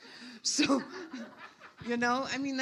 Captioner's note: audience laughs